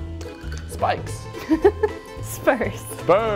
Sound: laughing

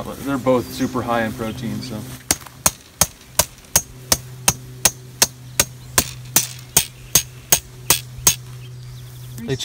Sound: tap, tap, tap

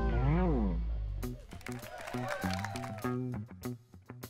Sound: applause

